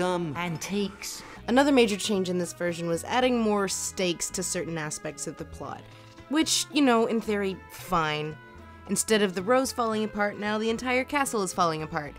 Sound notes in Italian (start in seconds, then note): 1.6 voce fuori campo